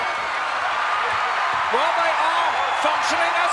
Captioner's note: crowd cheers